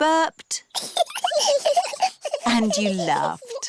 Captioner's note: both burping; both giggling